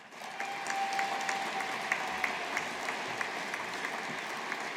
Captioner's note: audience applauding